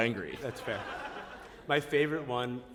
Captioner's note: laughter